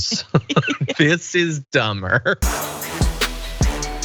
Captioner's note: laugh